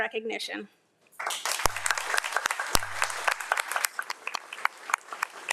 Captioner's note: audience applauds